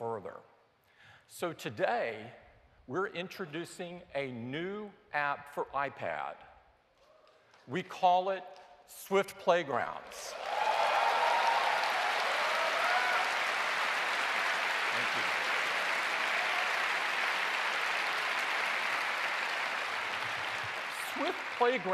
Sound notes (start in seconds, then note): 8.7 cheers and applause